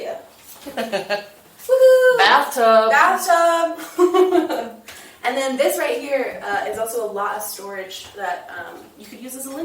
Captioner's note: laughing; laughing